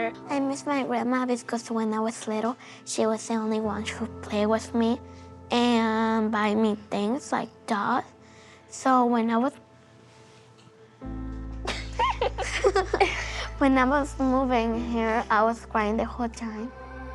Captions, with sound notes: I miss my grandma because when I was little, she was the only one who would play with me and buy me things like dolls. So when I was... [laughing] when I was moving here, I was crying the whole time.